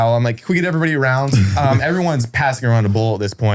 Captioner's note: chuckles